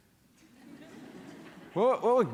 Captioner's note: laughter